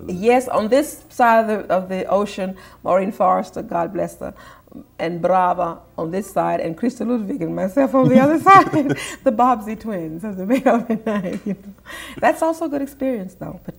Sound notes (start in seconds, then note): 8.0 chuckles